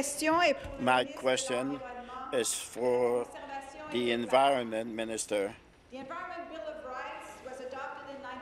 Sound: speaking in French

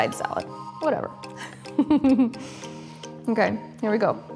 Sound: giggles

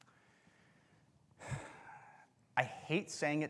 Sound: exhales deeply

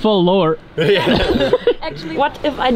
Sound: all laughing

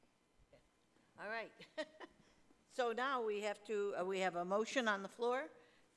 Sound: laughing

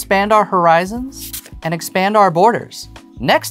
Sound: paper rustling

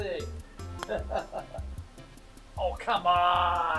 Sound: chuckles

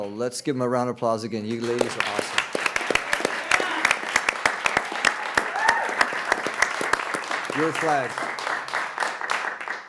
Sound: applause

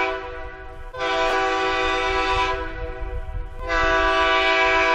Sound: train horn hooting

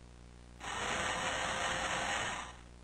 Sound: camera whirring sounds

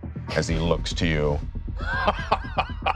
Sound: laughs

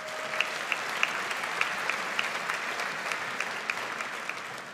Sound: audience applauds

